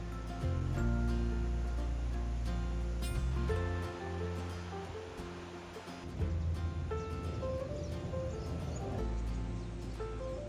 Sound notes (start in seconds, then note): 2.7 light acoustic music continues; 7.7 birds chirping